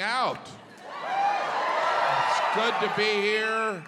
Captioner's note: audience cheering